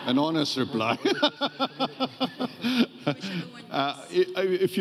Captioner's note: audience laughing